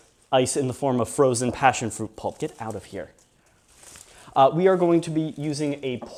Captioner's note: vines crinkle